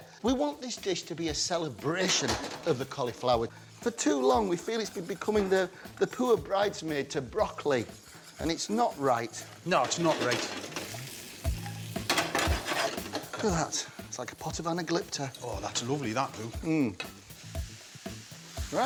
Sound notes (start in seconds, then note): 10.2 pan clanging; 10.7 mushrooms sizzling; 10.7 pan clanging; 16.7 mushrooms sizzling